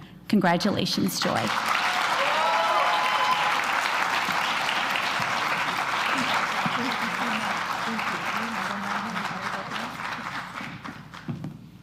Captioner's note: applause